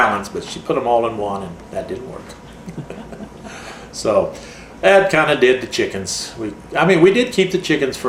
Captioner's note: laughs